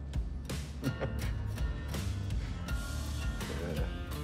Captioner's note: laughs